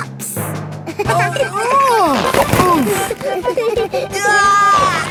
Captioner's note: giggling; grunting; giggling